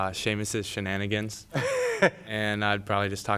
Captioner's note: chuckling